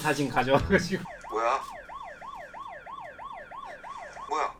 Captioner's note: Daddy-long-legs' phone alarm sound